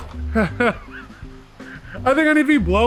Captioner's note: laughs